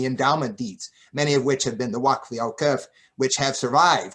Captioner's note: non-english speech